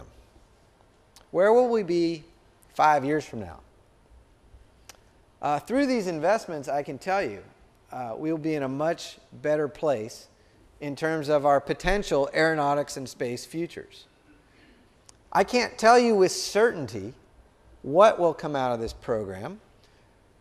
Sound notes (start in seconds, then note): none